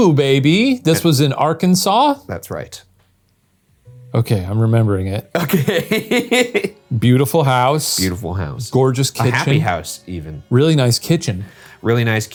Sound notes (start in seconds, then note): 4.7 brooding music; 5.3 laughing